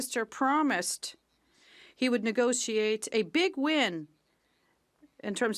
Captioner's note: speaking French